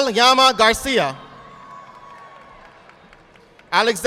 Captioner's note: audience applauding